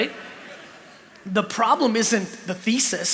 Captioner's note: laughter